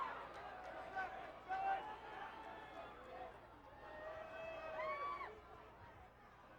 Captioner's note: applause